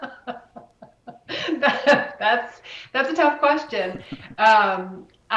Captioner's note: laughs